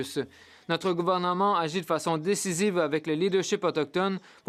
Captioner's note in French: voix de l'interprète